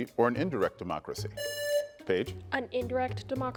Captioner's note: buzzer buzzing